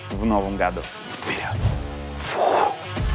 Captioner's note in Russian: шепотом